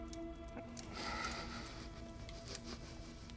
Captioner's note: fire crackling; sobbing